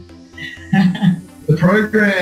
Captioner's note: laughing